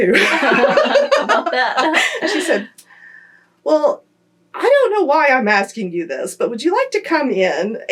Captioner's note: laughter